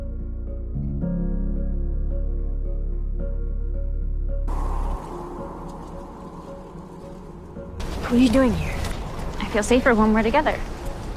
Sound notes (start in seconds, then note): 8.0 voiceover